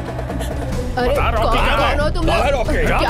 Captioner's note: clamour